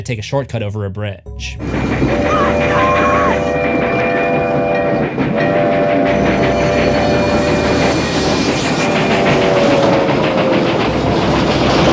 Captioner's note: train SFX; boys screaming